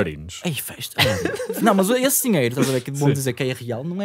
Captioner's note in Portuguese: risos